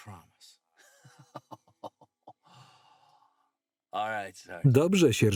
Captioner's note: Joe laughing